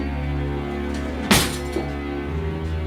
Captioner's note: cutlery rattling; drawer closes